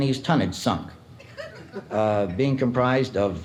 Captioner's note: audience chuckles